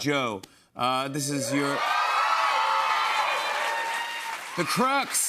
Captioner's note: cheers and applause